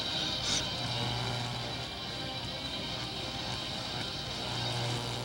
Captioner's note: electronic buzzing